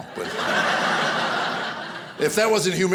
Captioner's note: audience laughing